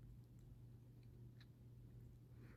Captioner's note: none